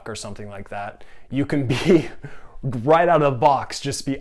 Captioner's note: giggling